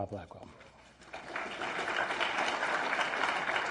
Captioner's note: applause